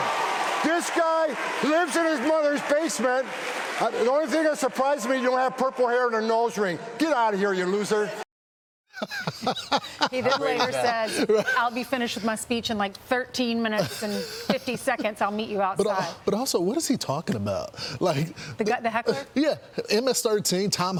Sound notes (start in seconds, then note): 13.7 laughter